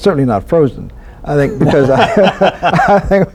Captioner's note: laughter